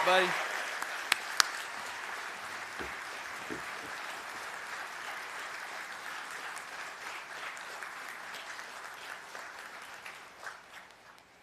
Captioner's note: cheers and applause